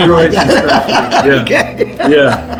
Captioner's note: all laughing